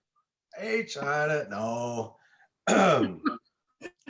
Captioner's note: speaks an indigenous language